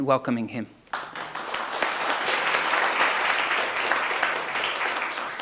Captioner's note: audience applauding